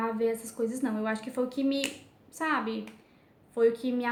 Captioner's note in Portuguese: estalar de dedos